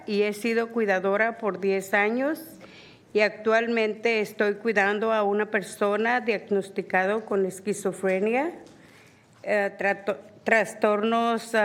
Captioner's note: speaking spanish